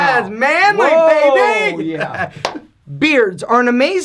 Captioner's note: laughs